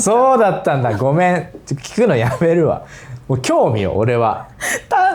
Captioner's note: laughs